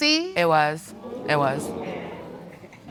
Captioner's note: audience exclaiming